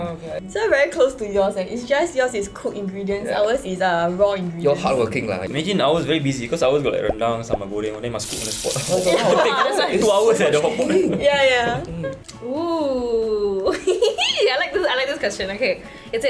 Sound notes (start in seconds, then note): 8.8 overlapping laughter